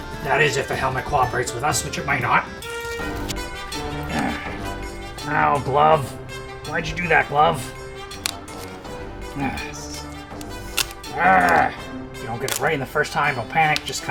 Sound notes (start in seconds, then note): 7.8 tape sticking; 10.4 tape tearing off